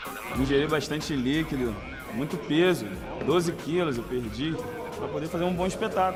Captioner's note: speaking Portuguese